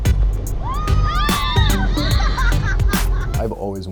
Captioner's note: screaming